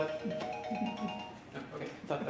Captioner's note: ringing stops